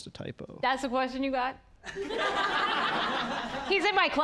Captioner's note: audience laughing